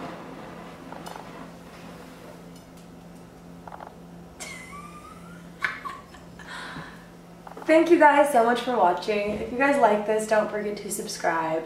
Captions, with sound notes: [Laughs] Thank you guys so much for watching. If you guys liked this, don't forget to subscribe.